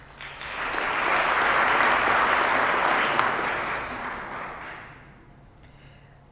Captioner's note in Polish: oklaski